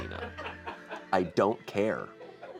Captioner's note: crew laughs